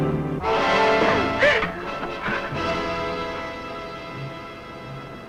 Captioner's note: suspenseful music; Mrs. Ellis gasping